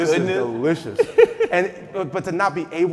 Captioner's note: laughing